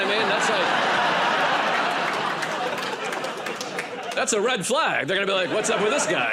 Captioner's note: laughter and applause